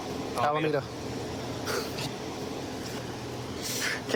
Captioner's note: laughs